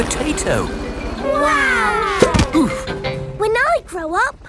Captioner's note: crowd